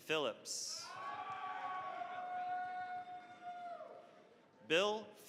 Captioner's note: cheering, applause